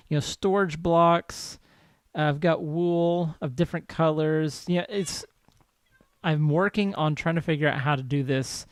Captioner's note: cats meowing